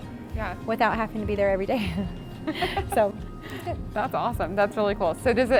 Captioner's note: laughs